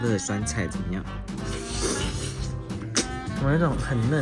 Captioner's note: inhaling